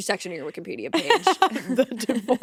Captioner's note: host laughing